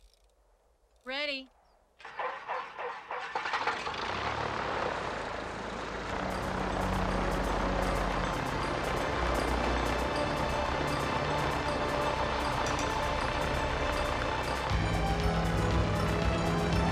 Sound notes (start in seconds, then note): 2.3 engine whirring; 6.7 dramatic music